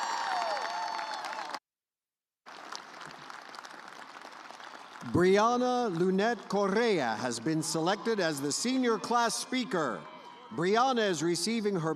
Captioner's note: cheers and applause